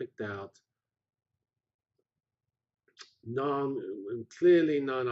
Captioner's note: pause